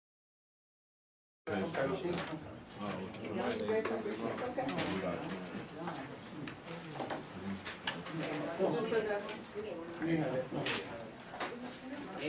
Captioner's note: silence; chatter